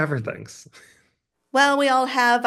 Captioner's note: chuckles